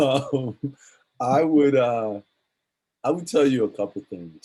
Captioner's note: laughs